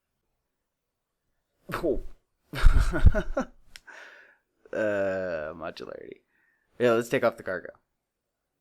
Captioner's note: laughing